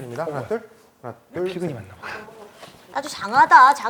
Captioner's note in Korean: 속닥